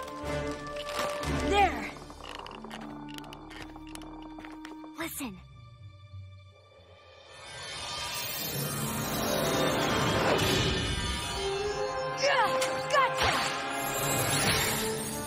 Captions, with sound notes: (Tree branch breaking) There! (Whispering) Listen. Gotcha!